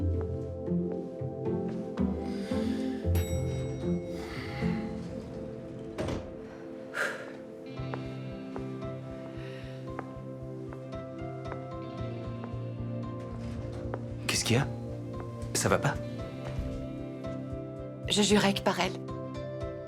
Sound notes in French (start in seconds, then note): 3.1 sonnerie d'ascenseur; 3.9 soupirs